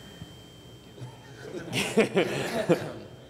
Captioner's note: laughter